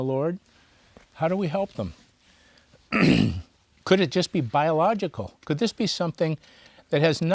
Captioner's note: clears throat